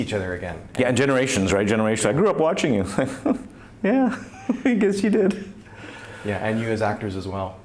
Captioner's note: laughs